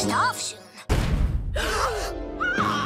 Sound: thud; henry and denzel gasp

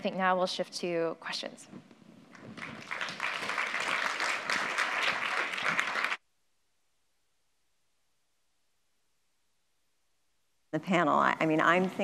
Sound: applause

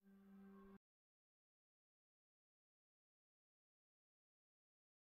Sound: silence

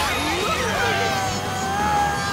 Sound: grunting

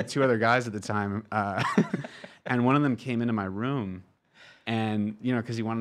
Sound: laughs

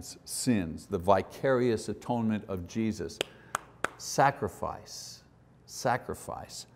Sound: claps

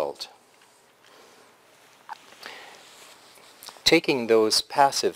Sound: pause

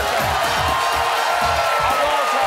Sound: cheering

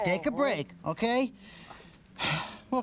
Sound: sighs

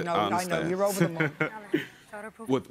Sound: chuckles

